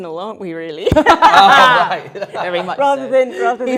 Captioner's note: group laughing